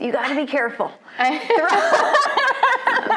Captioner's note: both laughing